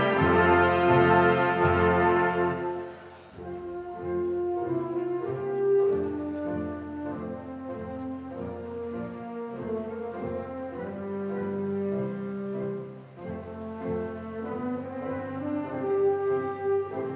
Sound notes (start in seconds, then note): none